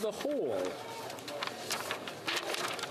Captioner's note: speaking French